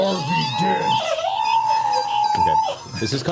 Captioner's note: high-pitched squealing